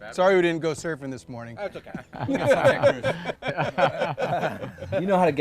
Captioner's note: all laughing